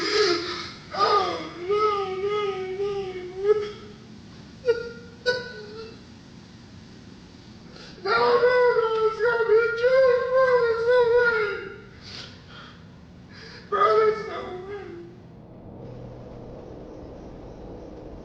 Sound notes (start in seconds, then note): 5.7 crying